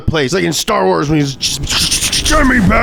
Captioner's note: mimics static